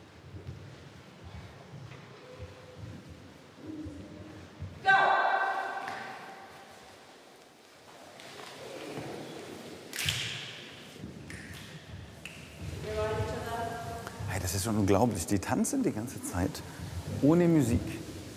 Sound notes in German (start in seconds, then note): 9.4 Schnippen